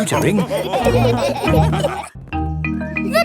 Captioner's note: all laughing